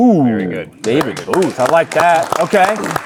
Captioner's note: audience applauding